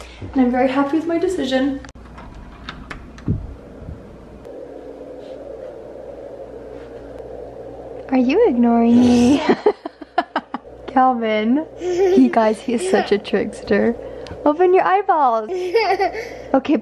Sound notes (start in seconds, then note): 11.8 laughs